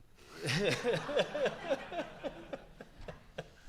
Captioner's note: audience laughs